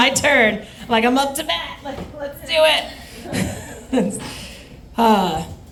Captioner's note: laughs